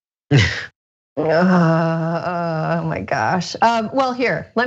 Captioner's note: laugh